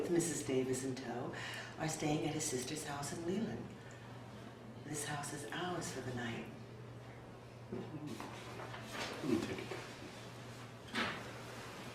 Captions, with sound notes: are staying at his sister's house in Leland. This house is ours for the night. (shuffling)